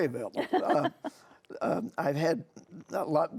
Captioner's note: laughing